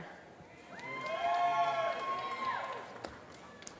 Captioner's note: applause